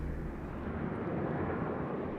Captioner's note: wind whooshes